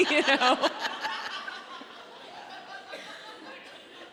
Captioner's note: audience laughs